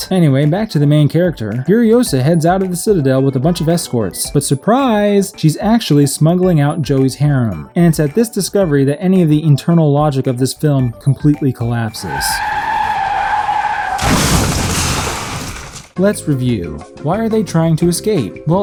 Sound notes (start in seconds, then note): 11.8 tires screeching; 14.1 car crash